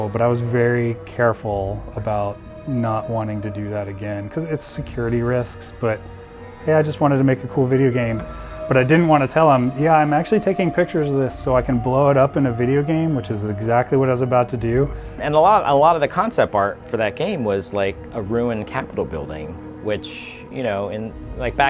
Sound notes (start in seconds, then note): none